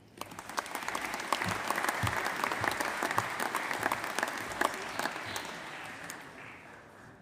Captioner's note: applause